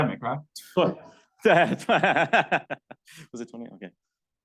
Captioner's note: laughing